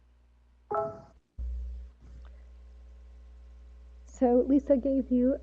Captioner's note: notification chimes